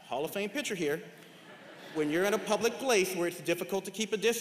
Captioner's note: laughter